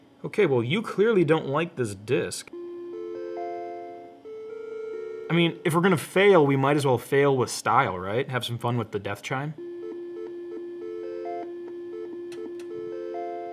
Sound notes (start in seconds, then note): 2.6 computer chimes softly; 9.6 computer chimes repeatedly